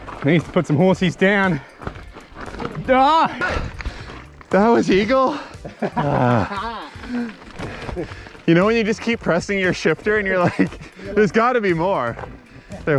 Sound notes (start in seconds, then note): 2.6 screams; 4.7 laughs